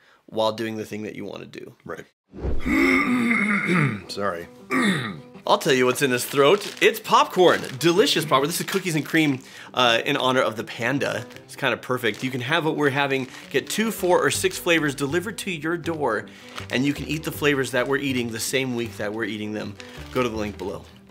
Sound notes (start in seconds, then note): 2.6 clears throat